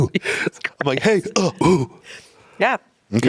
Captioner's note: grunting